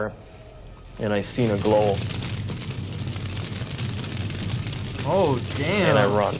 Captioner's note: fire crackling